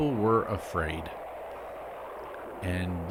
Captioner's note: jet engine roaring